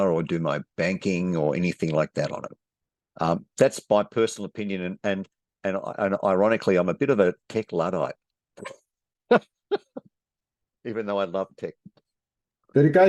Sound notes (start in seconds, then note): 9.3 laughs